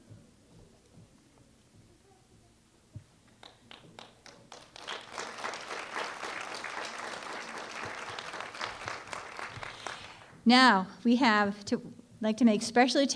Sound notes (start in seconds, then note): 3.4 applause